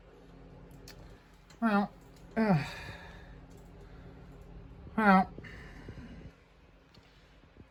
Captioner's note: stammers